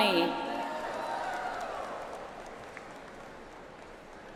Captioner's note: audience applauds